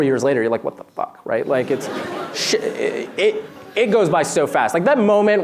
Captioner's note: laughter